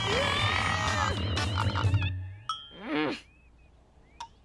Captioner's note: both groaning; chaotic music; Lizbeth growling